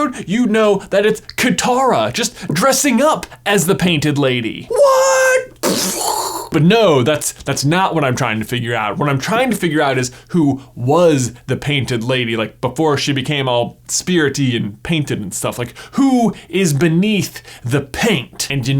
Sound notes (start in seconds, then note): 5.1 brain explodey sound